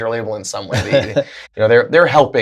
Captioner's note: laughter